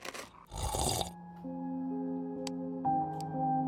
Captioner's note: snoring